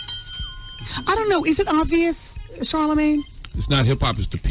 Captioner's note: bell ringing